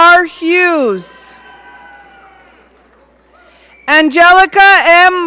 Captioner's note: audience cheering